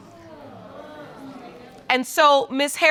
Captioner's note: audience exclaiming